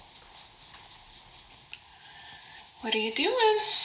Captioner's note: brush sounds on TV